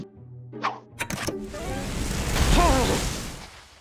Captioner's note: remote clicks; snow rumbles; groans